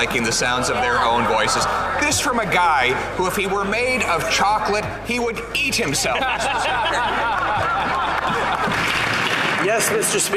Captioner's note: laughter